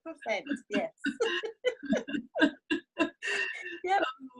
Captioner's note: both laugh